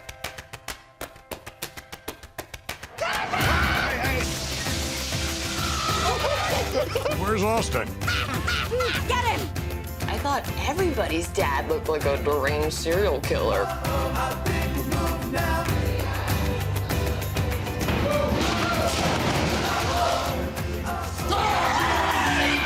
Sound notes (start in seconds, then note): 5.4 screaming; 6.4 laughter